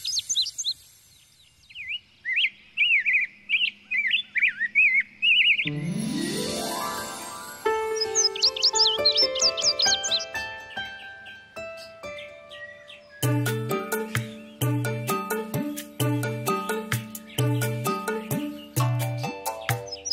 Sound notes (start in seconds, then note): 2.4 birds chirping